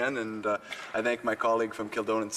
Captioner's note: speaking French